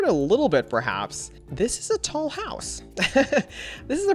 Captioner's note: laughs